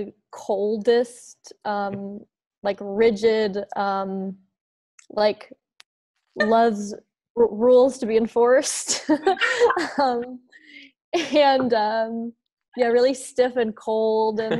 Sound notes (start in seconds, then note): 9.3 laughing